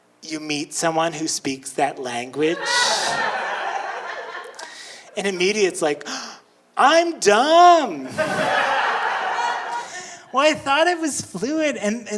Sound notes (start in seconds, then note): 2.5 audience laughing; 8.0 audience laughing